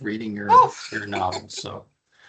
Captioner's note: chuckling